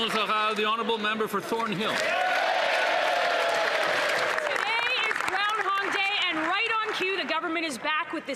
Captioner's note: some Applause